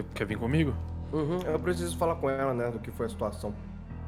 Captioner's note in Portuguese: Mm Hum